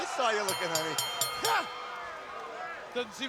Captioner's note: bell rings